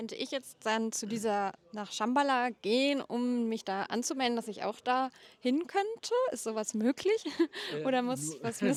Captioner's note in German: gelächter